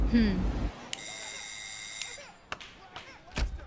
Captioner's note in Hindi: दरवाजे की घंटी बजती है